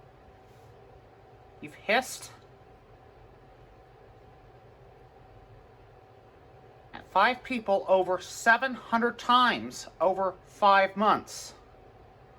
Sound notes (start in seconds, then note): none